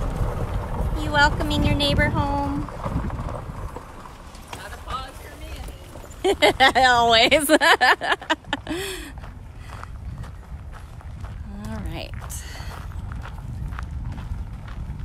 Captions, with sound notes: You welcoming your neighbor home? [Laughter]